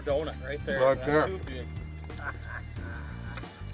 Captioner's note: voiceover